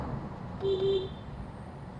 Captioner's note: beepBeep